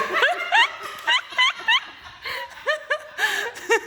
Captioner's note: laughing